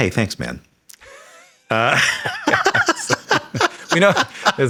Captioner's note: Sam laughing; Hank chuckles